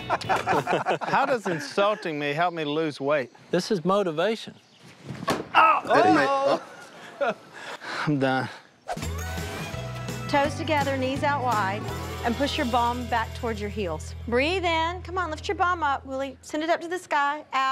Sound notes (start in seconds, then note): 5.7 laughs